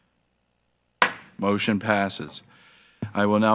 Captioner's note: gavel smacks